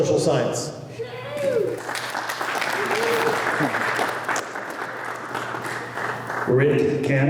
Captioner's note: applause